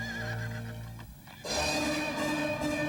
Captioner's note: whinnying